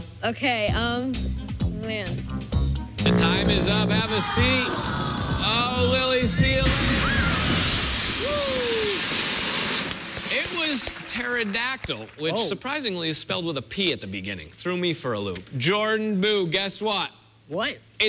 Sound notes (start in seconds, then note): 4.8 farting noise